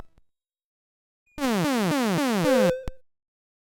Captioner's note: 8-bit alien sound effect